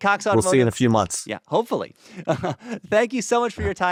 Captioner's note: laughs